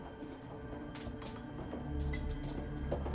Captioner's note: clattering continues